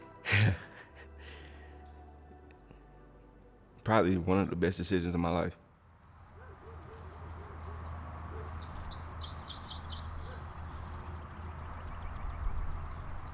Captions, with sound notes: (emotional laugh) Probably one of the best decisions of my life. (dogs barking) (birds chirping)